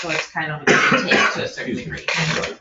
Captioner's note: coughing